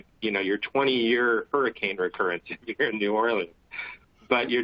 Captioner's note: laughter